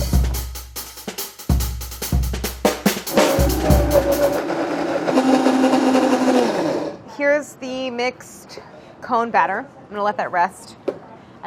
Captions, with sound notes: [upbeat percussion music] [blender whirring] Here's the mixed cone batter. I'm gonna let that rest.